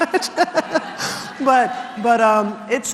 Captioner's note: laugh